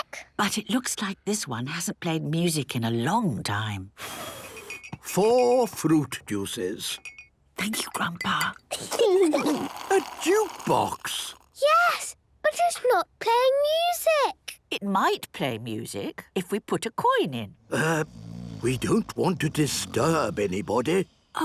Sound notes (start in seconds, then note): 4.2 blows; 7.3 Granny whispering; 8.7 children giggling; 17.6 people snoring